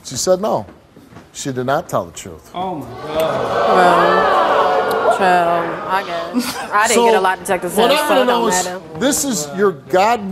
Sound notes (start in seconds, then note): 2.8 audience boos